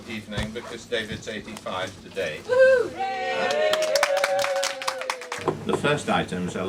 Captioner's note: applause